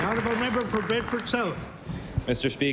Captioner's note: applause